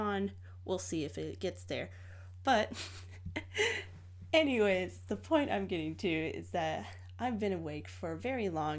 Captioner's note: tired laugh